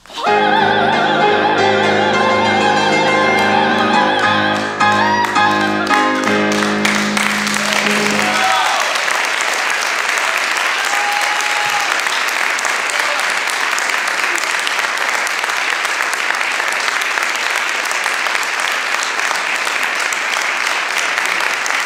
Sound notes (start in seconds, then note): 7.6 cheering, applause; 14.9 applause